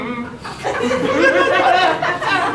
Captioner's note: audience laughing